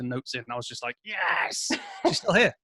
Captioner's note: chuckling